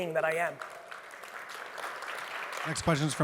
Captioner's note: audience applauds